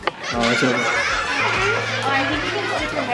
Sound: laughter sound track

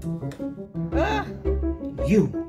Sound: sigh

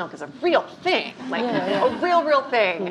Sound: laughing

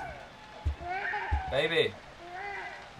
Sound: baby crying

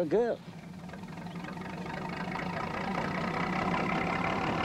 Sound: train rumbling

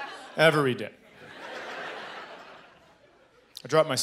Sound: audience laughing

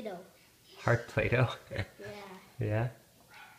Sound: laughs

